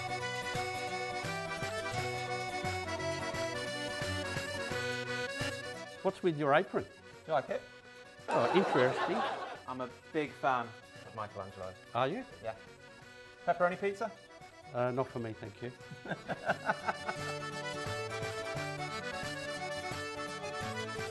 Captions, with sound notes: - What's with your apron? - Do you like it? - Interesting. (audience laughing) - I'm a big fan of Michelangelo. - Are you? - Yeah. Pepperoni pizza? - Not for me, thank you. (both laughing) (upbeat music)